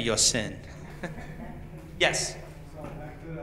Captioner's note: laughs